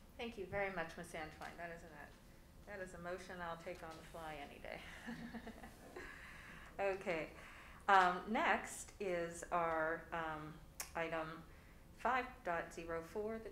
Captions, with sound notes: - Thank you very much, Ms. Antwine. That is a motion I'll take on the fly any day. (laughs) Okay. Next is our item 5.04, the transportation report.